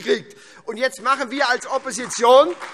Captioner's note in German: Beifall SPD